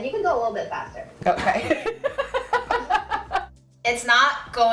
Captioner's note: laugh